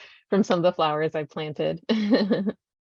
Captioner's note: laughs